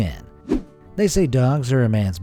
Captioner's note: air whooshing